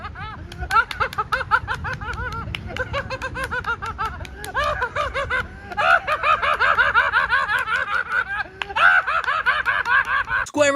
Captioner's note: claps hands while laughing increasingly maniacly